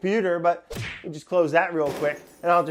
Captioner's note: punch sound effect